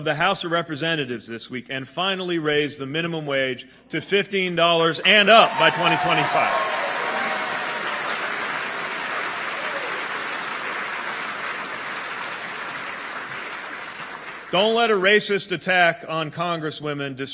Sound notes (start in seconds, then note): 11.4 applause